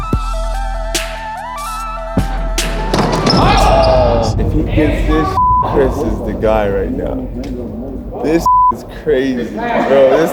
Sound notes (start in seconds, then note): 5.3 beep; 8.4 beep